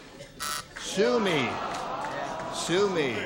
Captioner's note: buzzer